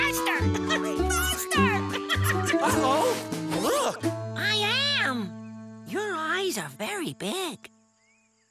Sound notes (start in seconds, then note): 1.8 giggling